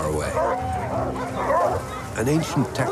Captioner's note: dogs barking